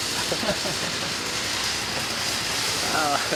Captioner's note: laughing